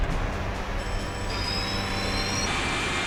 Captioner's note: bells Ringing,</i> <i> Engines Whining